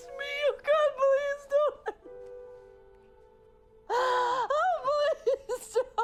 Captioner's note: crying